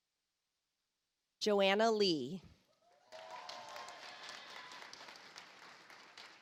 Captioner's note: audience applauds